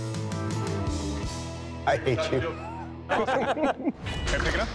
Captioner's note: laughter